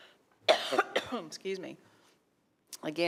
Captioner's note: coughs